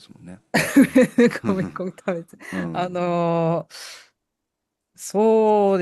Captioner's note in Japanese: 笑い